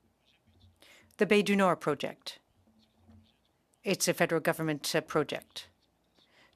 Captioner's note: speaking French